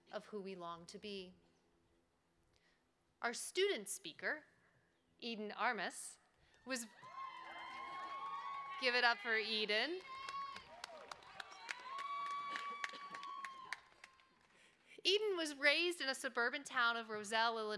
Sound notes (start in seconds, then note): 10.0 cheering